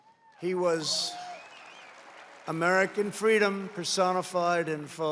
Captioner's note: applause